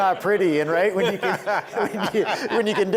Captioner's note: people laughing